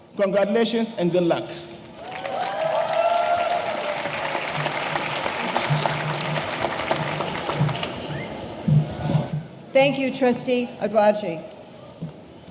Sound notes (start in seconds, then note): 1.9 audience applauding; 2.0 audience cheering